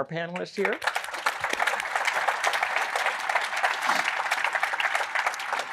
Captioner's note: applause